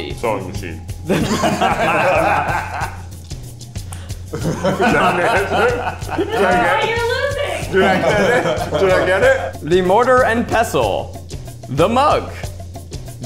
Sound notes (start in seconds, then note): 1.0 laughing; 4.2 continue laughing; 9.0 all laughing